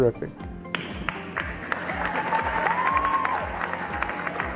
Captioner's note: audience applauds